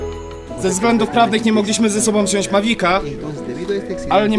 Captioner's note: drone